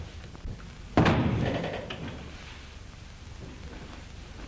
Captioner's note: door closes